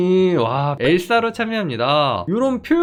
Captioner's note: voiceover